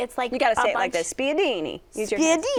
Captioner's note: Italian accent